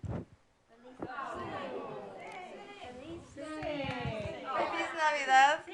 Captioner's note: audience says “Yes!”